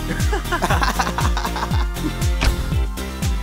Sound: laughing

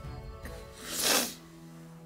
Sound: sniffs

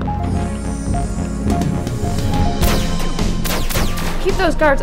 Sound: The corridor echoes with gunfire as Auliver exchanges blasts with the guards

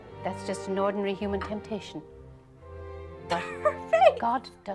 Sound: laughs

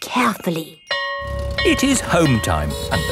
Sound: school bell ringing

